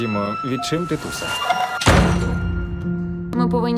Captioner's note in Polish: pisk kredy; trzask drzwi